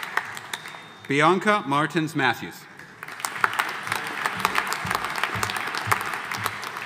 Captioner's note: audience applauding